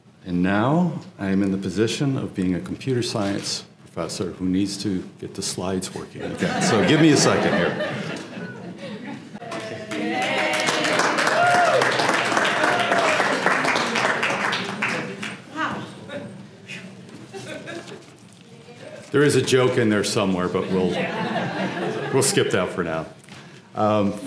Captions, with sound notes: And now, I am in the position of being a computer science professor who needs to get the slides working again. >> [LAUGH] >> So give me a second here. >> [APPLAUSE] >> There is a joke in there somewhere, but we'll skip that for now.